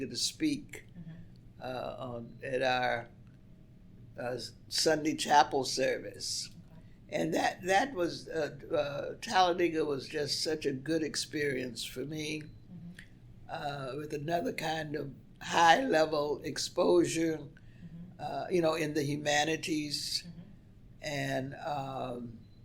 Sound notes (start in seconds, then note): none